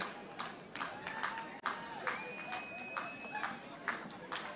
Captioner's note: audience applauding